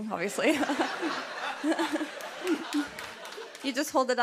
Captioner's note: laughter